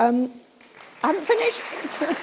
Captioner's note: applause